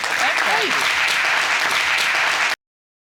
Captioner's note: audience applauds